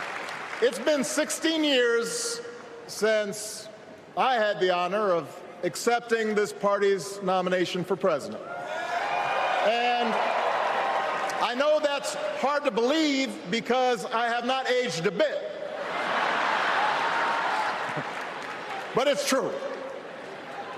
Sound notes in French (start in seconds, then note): 9.8 applause